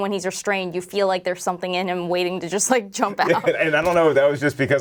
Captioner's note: laughing